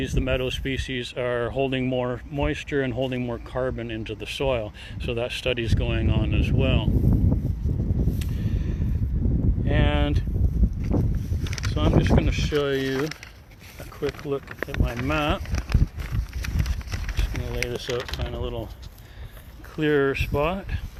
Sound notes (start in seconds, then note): 13.2 paper crinkling